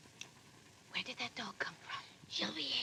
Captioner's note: whispers